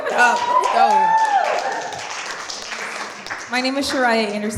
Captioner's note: applause